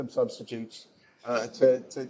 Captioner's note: chuckling